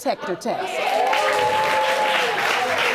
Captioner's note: audience cheering